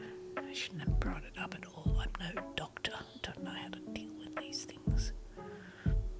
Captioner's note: whispers to self